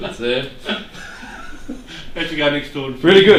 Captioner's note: laughing